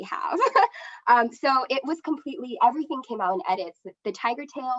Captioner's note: laughs